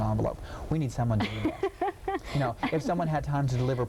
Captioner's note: laughing